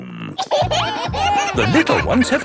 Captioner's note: kids giggling